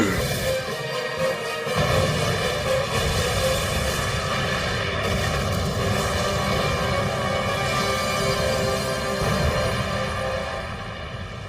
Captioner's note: explosion